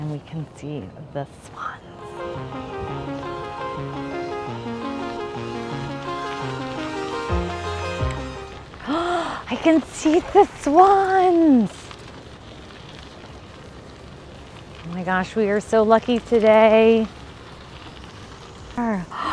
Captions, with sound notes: and we can see the swans. (upbeat music) (gasps) I can see the swans. Oh my gosh. We are so lucky today.